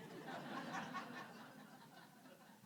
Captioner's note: audience laughing